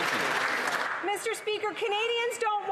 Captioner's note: applause